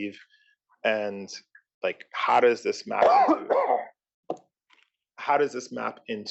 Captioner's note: cough